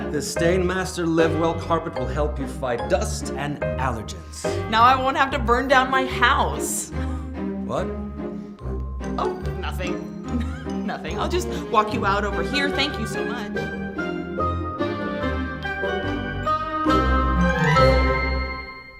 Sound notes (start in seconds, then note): 10.3 laughs; 15.7 lighthearted music